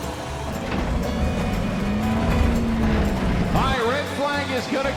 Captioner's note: engines revving